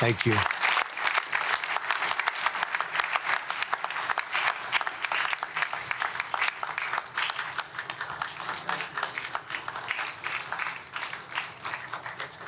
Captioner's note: applause